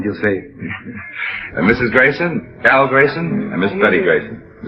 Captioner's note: laughs